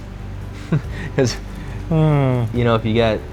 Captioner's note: chuckles